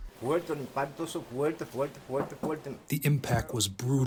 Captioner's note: through translator